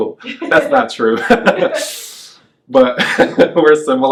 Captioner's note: laughs